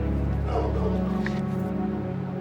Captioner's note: dog barking